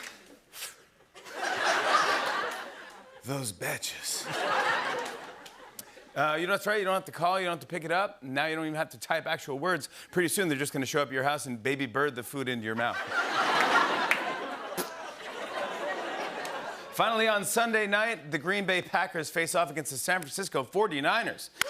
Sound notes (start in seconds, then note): 0.1 imitates cigarette puffing; 1.1 laughter; 12.8 laughter; 12.9 spits